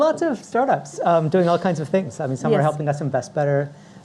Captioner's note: laughing